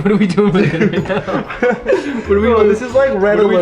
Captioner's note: chuckles